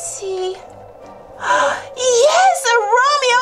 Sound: gasps

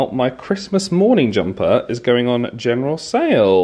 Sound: none

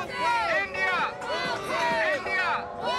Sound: crowd

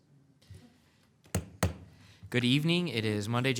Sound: gavel bangs

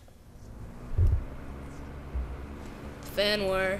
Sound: fan whirring

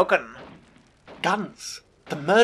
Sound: distant guns

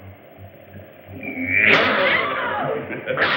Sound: scream

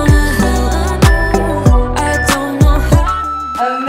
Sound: timer beeping

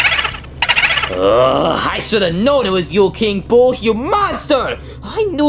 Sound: King Boo exclaiming; groans

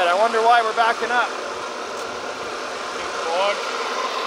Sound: machinery engine revs

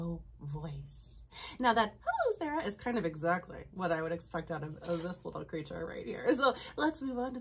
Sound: uses high voice

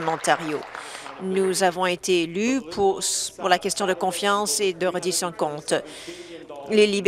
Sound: applause

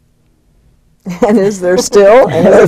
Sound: laughter

